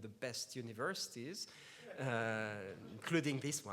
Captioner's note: laughs